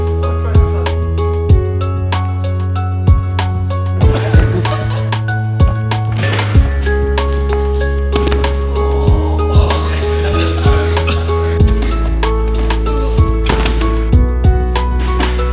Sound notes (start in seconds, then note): 4.0 laughter; 8.5 groaning